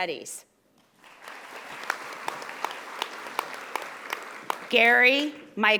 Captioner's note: audience applauding